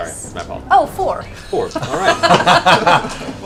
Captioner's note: laughs